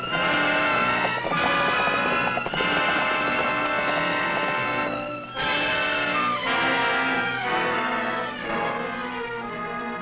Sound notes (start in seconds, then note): 1.6 horse hooves pattering; 7.2 tense music